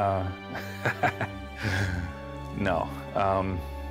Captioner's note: laughs